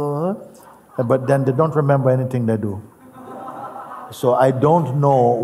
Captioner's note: Lachen